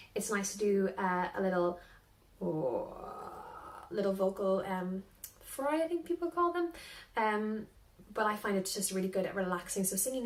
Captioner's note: vocal fry